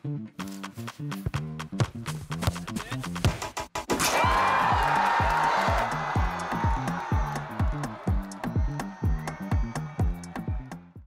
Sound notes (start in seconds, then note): 0.4 upbeat pop music; 4.0 crowd cheering; 7.3 upbeat pop music continues